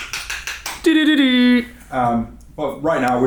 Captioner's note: rolls tongue